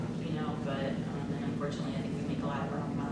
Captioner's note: none